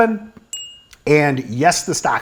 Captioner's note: bell ringing